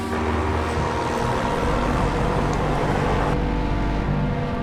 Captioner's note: helicopter whirring